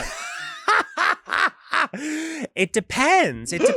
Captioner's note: laughs